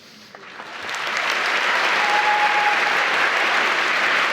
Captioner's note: applause